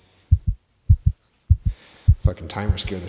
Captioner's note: heart beating